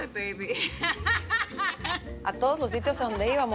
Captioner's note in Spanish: Risas